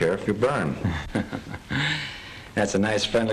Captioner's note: King laughs